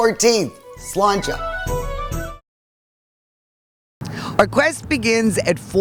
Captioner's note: speaks in foreign language